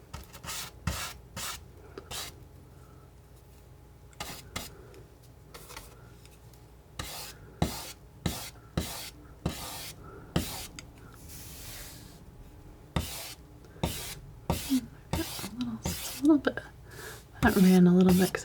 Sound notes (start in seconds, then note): 4.0 scratching